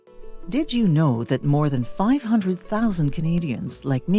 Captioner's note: voiceover